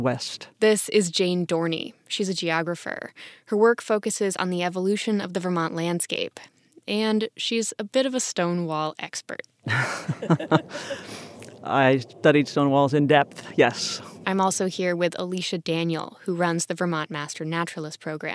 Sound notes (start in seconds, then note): 9.7 laughs